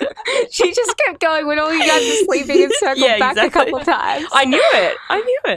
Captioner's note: laughing